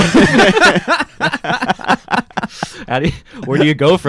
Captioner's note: laughing